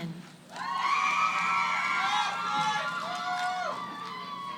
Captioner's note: cheering